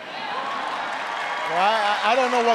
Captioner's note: applause